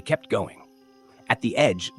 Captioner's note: pause